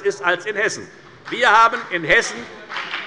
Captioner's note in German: Beifall bei der FDP